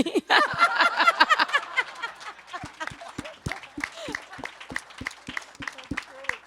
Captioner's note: audience and panelists laugh and applaud